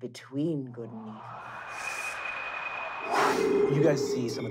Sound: wind gusting

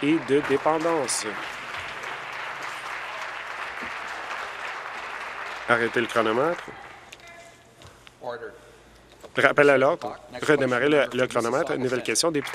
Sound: applause

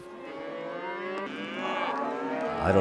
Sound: mooing

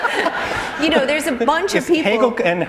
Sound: laughter

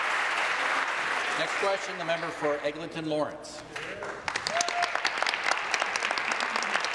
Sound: applause

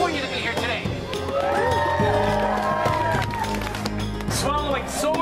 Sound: audience Claps and Cheers

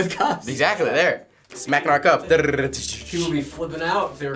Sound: imitates percussion

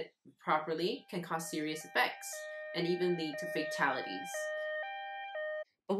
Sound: siren noise

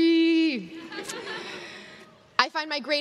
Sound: crowd laughs

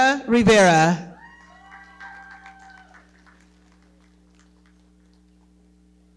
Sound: audience cheering and clapping

